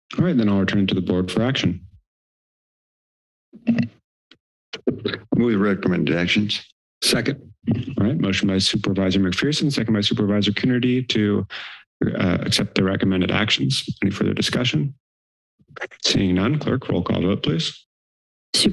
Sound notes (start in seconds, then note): 3.6 mic thumps